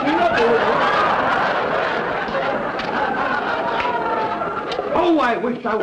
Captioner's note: audience laughter; singing